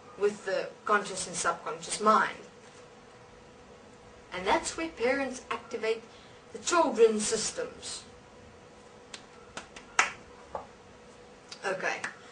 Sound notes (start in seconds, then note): 9.5 claps